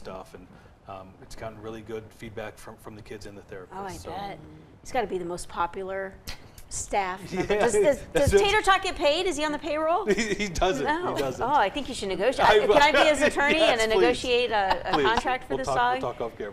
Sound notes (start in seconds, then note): 12.4 laughs